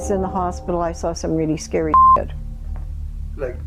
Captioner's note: beep